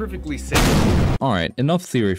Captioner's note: kablooey!